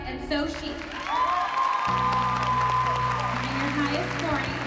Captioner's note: cheers and applause